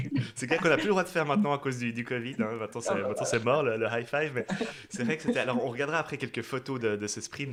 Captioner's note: laughs